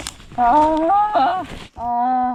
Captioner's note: sound of not wanting to go